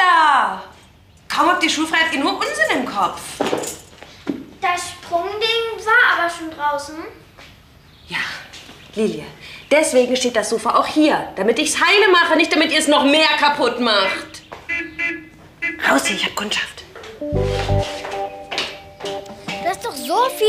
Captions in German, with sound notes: Runter da. Kaum habt ihr schulfrei, habt ihr nur Unsinn im Kopf. Das Sprung-Ding war aber schon draußen. Lilie. Deswegen steht das Sofa auch hier. Damit ich es heil mache. Nicht, damit ihr es noch mehr kaputt macht. (Auto hupt.) Raus hier, ich habe Kundschaft.